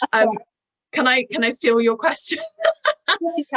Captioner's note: laughter